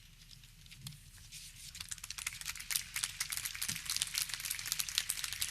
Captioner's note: audience clapping